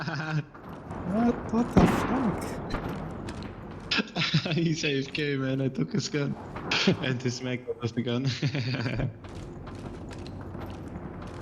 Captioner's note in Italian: risate